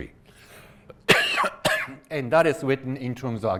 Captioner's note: coughs